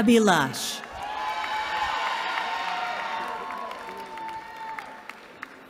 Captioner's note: cheering